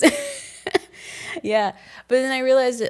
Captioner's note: both laughing